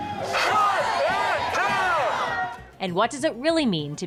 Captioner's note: protestors shouting